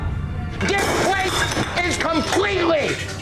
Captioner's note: glass clattering